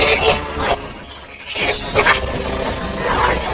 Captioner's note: Kaufo growls